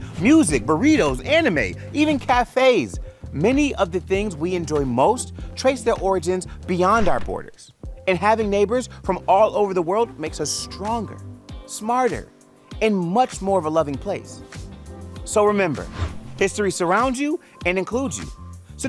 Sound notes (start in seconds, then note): 6.9 graphics whoosh; 11.7 chill upbeat music; 15.7 graphic whooshes